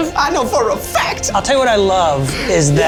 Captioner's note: in puppet voice